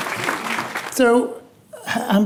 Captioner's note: audience applauding